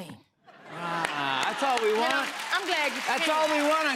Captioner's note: applause